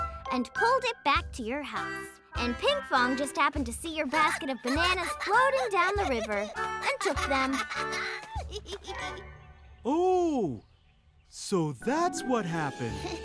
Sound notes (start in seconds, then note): 4.2 chuckles excitedly; 7.9 continues chuckling